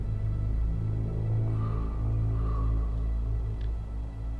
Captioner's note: A bird caws